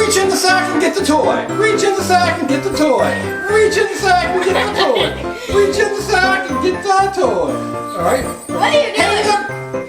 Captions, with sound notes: Reach in the sack and get the toy! Reach in the sack and get the toy! Reach in the sack and get the toy! (giggles) reach in the sack and get the toy! alright - What're you doing?